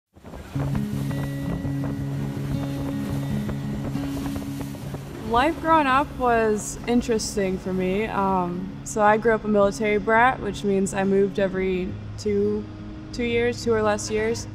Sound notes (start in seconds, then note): 0.4 gentle guitar music; 0.4 wind blows; 14.3 guitar music